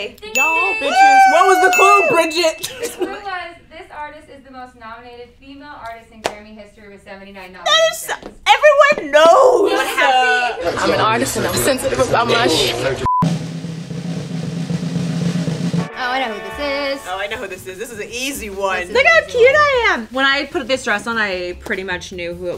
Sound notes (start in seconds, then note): 13.0 beep; 13.2 drum roll